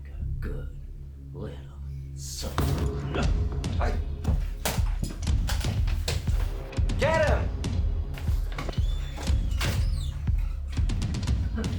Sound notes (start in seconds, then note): 2.9 men rumble; 8.9 dramatic music